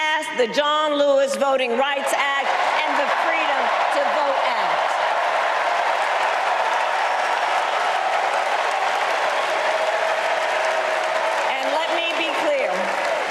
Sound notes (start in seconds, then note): 2.2 applause